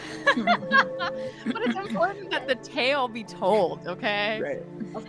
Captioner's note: laughs